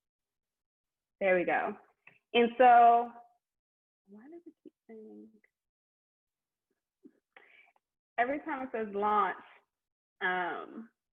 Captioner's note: whispers; laughs